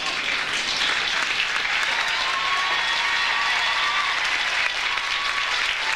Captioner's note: audience applauds; audience cheers